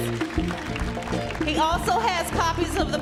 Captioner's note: audience applauds